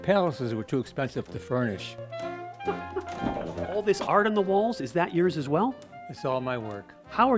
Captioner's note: laughs